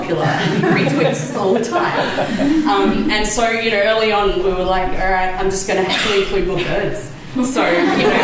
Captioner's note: laughter